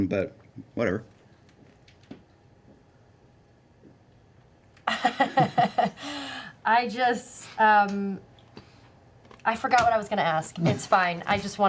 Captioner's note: laughs